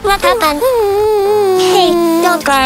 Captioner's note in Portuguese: Chorando